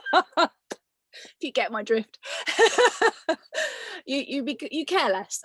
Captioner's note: laughs